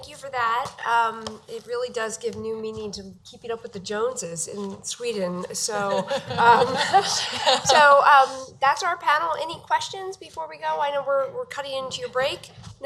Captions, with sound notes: So, thank you for that. It really does give new meaning to Keeping up with the Joneses in Sweden. (laughing) So, that's our panel. Any questions before we go? I know we're cutting into your break.